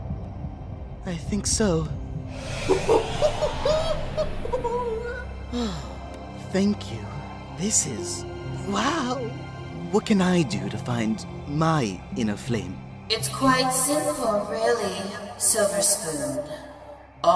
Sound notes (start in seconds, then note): 2.8 silver spoon exclaims & laughs; 5.4 sighs